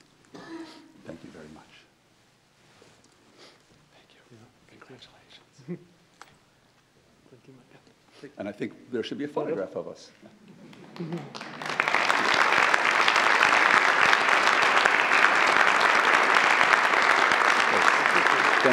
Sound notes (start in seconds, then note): 10.6 audience applauds; 10.8 audience laughs